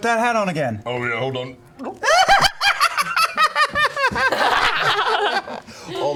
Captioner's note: laughs hysterically; foomp